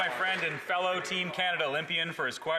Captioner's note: applause